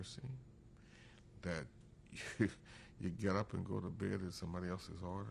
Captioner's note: laughs